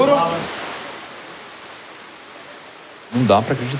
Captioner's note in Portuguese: barulho de chuva